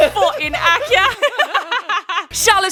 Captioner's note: laughing